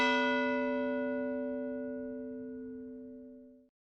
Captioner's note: bell ringing